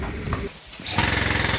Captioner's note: drilling